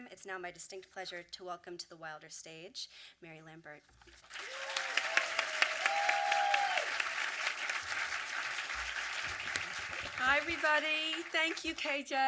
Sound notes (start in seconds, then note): 4.3 audience applause